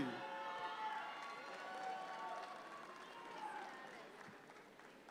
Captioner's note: audience cheer